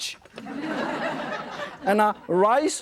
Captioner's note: audience laughing